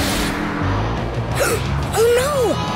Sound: gasping

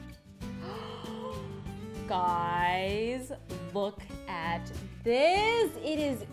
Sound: gasps

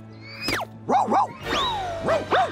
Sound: barks

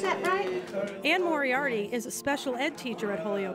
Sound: applause

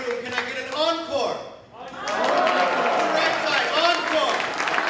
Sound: applause, cheering

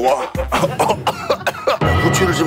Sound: coughs

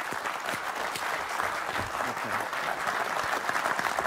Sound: applause

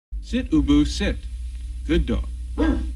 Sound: Ubu barks

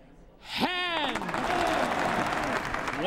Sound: applause

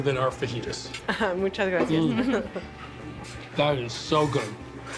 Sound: laughs

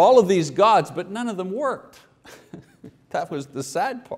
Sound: chuckles

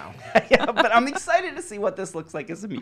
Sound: laughing

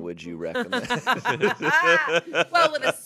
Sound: everyone laughs

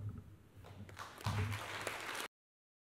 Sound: applause

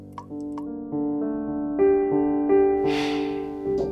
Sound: tap dripping stops suddenly

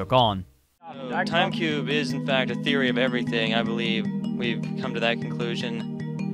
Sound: deadpan

